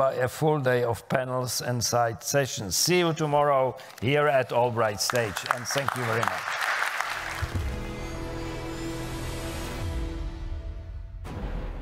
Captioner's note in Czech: Potlesk